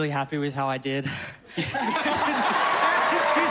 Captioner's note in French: laughter